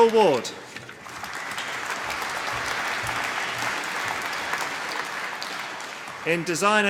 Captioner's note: applause